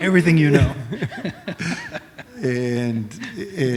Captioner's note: laughter